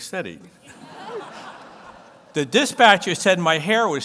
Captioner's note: audience laughs